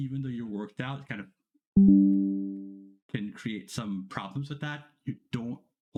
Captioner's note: beep